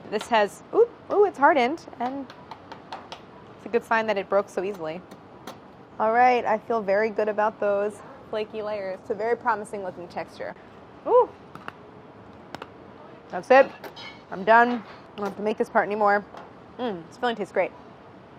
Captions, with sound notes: This has, oop, ooh, it's hardened. And [tapping] it's a good sign that it broke so easily. All right, I feel very good about those flakey layers. It's a very promising looking texture. Ooh! [crunching] That's it, I'm done. I don't have to make this part anymore. Mm, this filling tastes great.